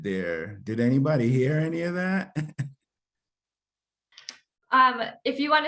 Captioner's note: chuckles